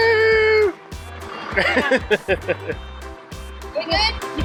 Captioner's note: laughing